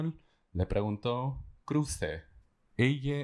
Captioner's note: speaking spanish